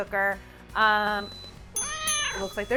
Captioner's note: multi-cooker beeps